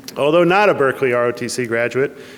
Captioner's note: none